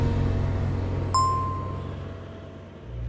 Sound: announcement bell chimes

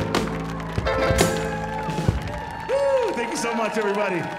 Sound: audience applauding

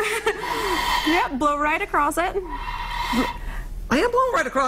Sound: laughter

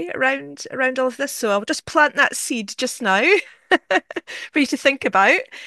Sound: laughter

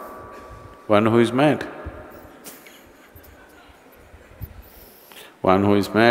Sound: laughs

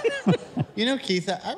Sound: laughs

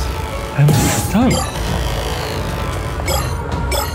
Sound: shards bleeping

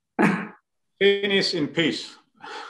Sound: chuckles

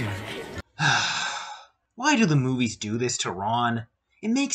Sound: sigh

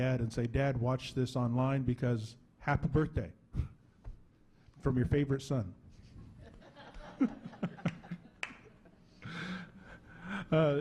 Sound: laughing

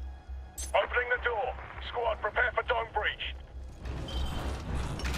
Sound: radio

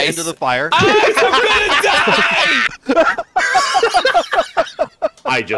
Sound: hysterical group laughter

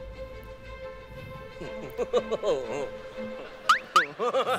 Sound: laughing

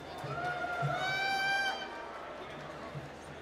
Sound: applause

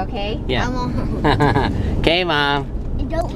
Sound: laughs

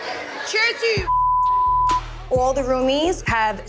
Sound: beep

